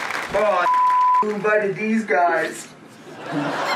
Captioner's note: audience cheer and applaud; beep; all laugh